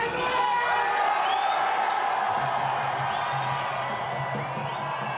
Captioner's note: crowd cheers and whistles